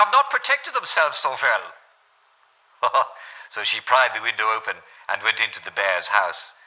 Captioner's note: German accent; regular accent